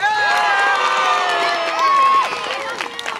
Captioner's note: audience applause and cheer